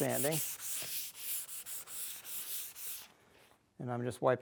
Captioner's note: pad scratching